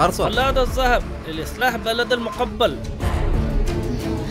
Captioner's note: Speaking in Arabic